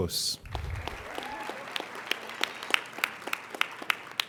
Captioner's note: applauding